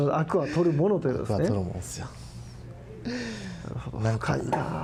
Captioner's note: laughs